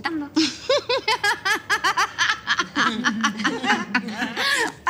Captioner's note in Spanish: Carcajada; Risas